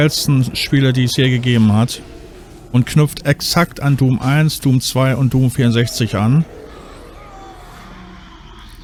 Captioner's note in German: schreien